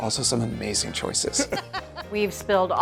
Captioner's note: laughing